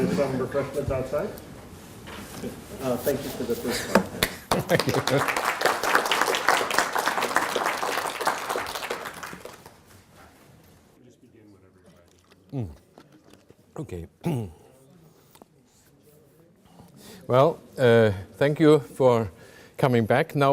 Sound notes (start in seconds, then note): 4.2 audience applauding; 14.2 clears throat